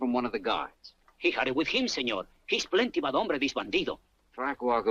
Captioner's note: speaks Spanish